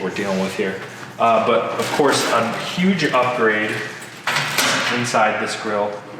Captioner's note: metal bangs on table